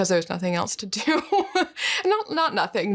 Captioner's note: laughs